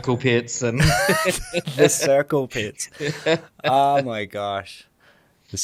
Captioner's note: laughter